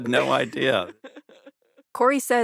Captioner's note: laughs